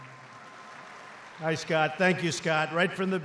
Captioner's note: applause